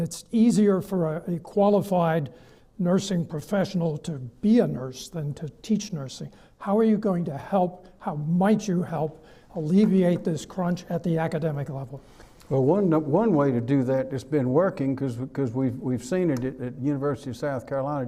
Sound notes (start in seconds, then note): none